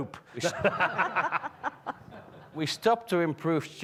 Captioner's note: everyone laughs